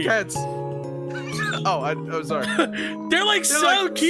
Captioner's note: laughs